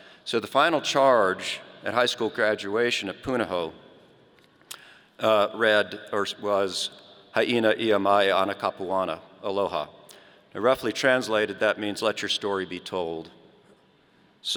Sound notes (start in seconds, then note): 7.7 foreign language